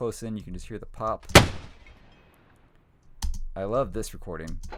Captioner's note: gunshot